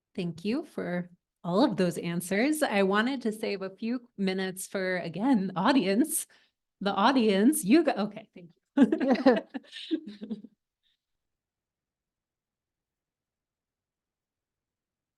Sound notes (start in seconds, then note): 8.7 laughter